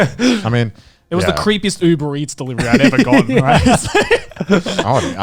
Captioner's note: laughing